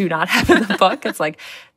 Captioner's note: laughter